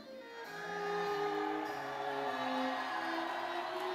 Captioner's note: audience cheering; audience applauding